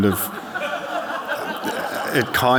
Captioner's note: audience laughing